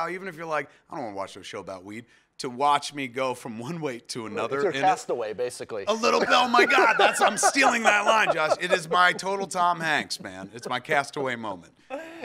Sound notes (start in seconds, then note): 5.9 laughs; 8.5 laughing